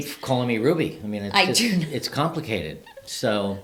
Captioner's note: laughs